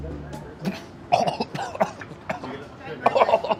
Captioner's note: coughing